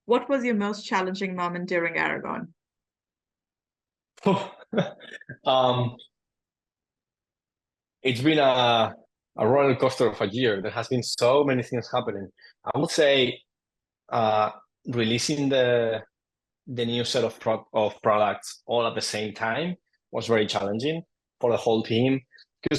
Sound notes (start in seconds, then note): 4.2 laughing